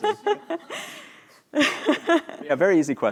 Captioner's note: laughter